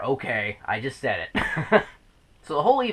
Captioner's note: laughs